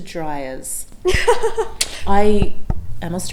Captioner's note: laughs